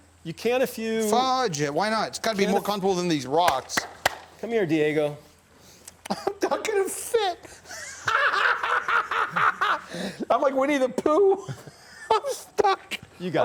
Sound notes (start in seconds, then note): 8.1 laughs